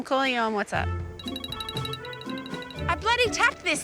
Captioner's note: phone rings